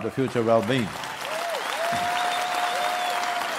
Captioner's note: cheering/Applause